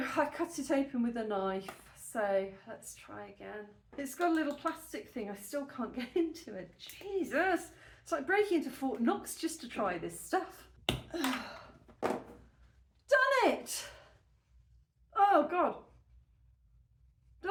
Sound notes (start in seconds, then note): 13.1 click; 13.8 sigh